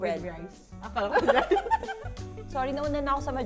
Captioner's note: laughs